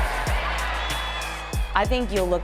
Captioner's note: stadium cheering